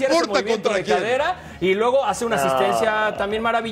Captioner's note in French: todos hablando